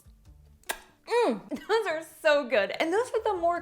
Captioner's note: lip smacking